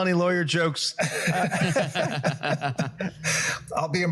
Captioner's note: laughs